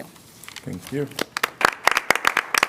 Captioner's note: applause